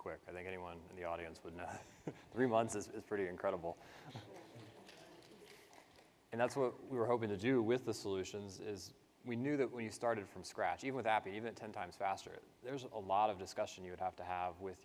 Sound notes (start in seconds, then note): 1.6 laughs; 4.3 participants clap